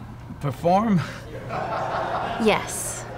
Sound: laughter

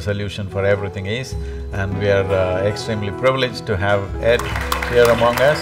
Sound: applause

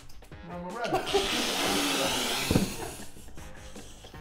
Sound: laughing

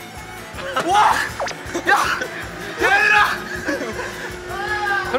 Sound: screaming for real and not to win

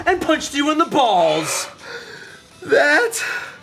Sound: gasping

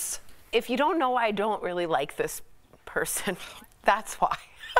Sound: laughter

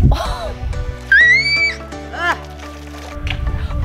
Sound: screaming

